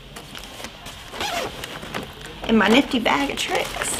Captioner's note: zipper zips